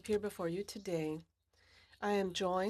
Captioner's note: speaking French